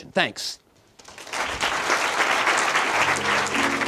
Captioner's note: applause